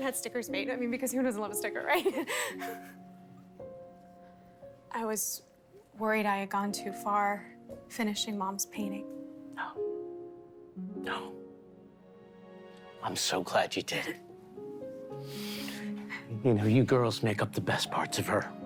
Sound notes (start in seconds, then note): 2.1 nervous laugh